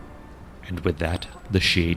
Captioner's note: ethereal Mist Noises